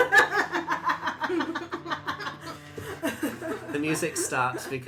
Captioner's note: ZYZZIX and LILIANA laugh